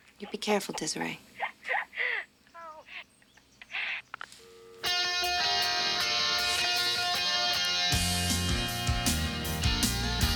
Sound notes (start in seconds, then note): 3.8 phone beeps; 4.9 lively upbeat music